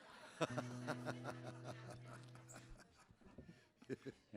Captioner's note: audience laughs